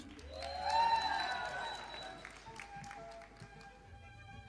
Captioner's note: audience applauding